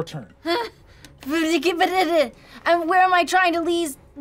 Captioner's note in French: bégaie